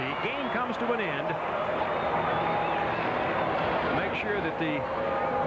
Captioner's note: crowd cheering